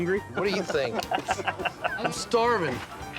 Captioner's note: chuckling